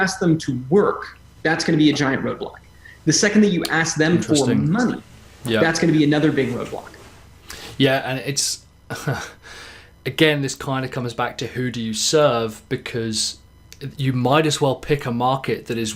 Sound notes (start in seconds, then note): 8.9 laughs